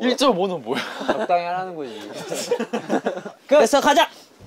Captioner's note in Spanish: Jajaja